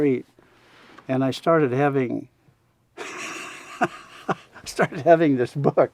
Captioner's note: laughs